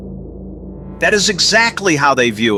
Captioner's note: excited